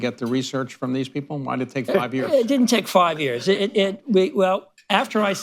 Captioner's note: laughter